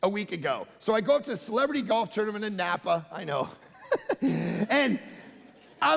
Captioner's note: giggling